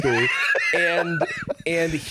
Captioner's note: laughing